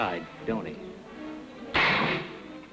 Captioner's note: gun firing